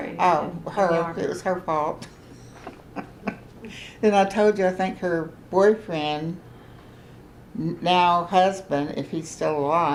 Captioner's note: laughs